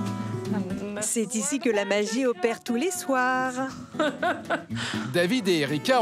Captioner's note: laughs